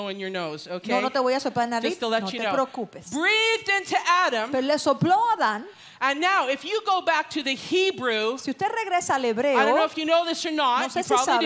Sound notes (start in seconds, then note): 0.1 Spanish; 7.9 Spanish